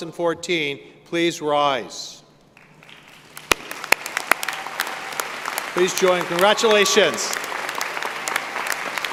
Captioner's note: applause